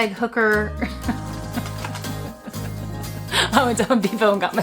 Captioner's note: laughing